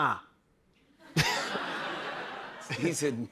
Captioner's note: laughter